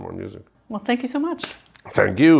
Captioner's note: hands slapping